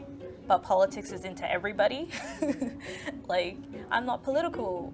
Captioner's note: laughs